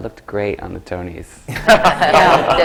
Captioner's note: laughter